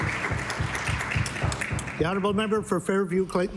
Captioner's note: applause